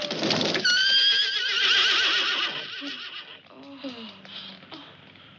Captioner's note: screams; horses whinny